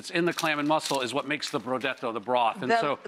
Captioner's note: speaking in foreign language